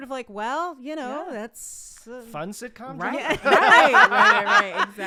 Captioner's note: all laughing